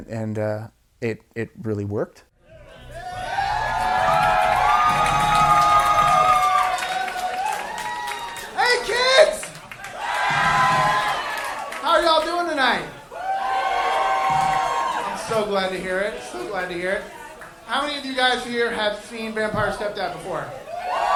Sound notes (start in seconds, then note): 2.9 audience cheering; 12.6 audience cheering